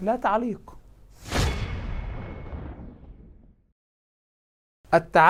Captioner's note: sound effects